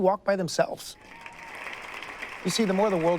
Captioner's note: audience applauds